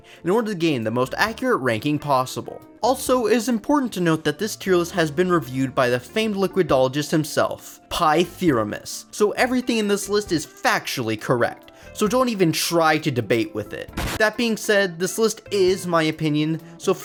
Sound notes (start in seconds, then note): 13.9 explosion